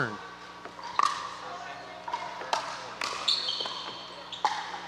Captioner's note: ball bouncing